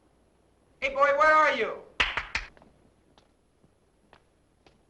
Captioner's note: clapping